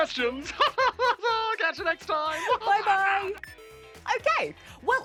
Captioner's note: laughs